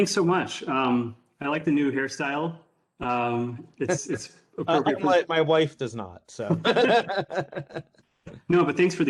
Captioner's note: laughter